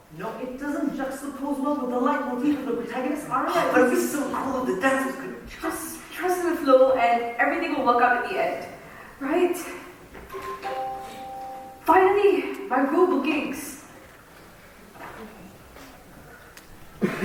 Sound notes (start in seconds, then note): 10.3 phone chimes